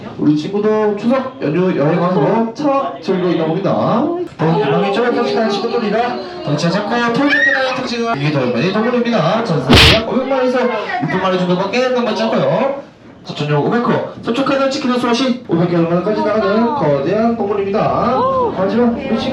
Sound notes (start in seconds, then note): 9.7 slaps